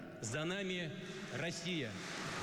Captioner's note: Aplausos